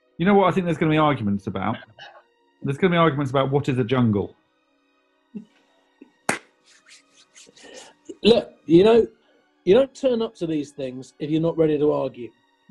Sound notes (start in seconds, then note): 6.2 claps